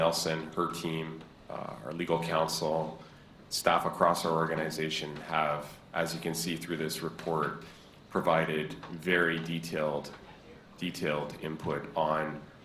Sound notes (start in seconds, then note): none